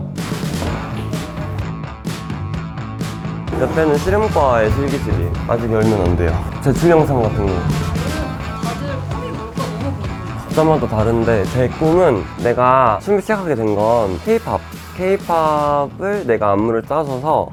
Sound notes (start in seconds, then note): 12.3 speaking informally